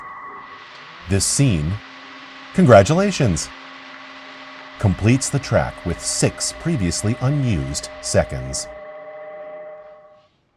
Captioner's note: transport motor